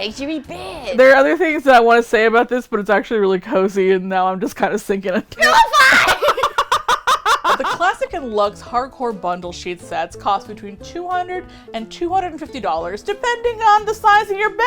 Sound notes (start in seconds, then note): 5.1 laughs; 5.4 shrieking